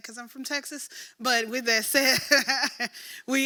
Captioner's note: laughs